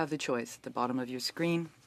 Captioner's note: speaking French